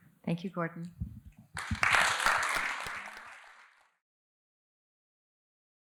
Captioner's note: applause